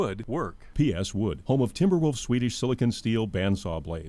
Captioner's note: voiceover